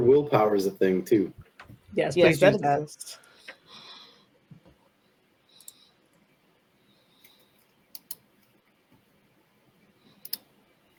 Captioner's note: Roll 20 clicking